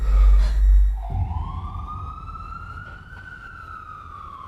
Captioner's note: sirens wailing